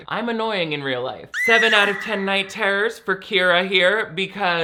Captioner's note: eerie screaming